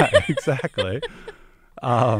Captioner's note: laughs